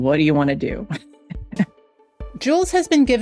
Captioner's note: laughs